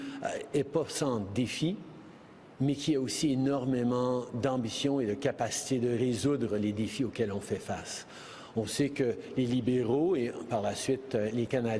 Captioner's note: speaking French